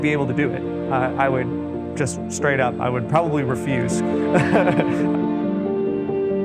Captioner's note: laughs